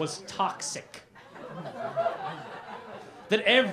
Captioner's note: laughter